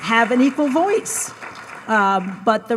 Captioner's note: audience applauds